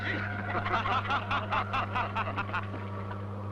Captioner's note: laughing